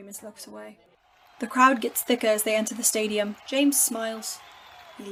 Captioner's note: cheering sounds build